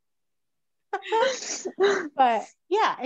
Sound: laughs

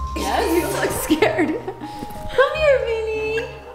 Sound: laughs

